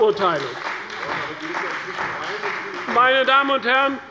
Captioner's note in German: Beifall bei der CDU